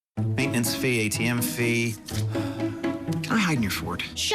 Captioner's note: sighs